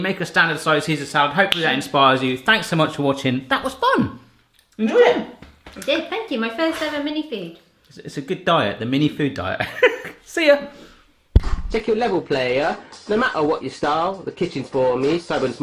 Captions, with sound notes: make a standard size Caesar salad. Hopefully that inspires you. Thanks so much for watching. That was fun! Enjoy it? - I did, thank you, my first ever mini food. - It's a good diet, the mini food diet. (Laughs) See ya! (rap music)